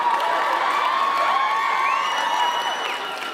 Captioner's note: cheering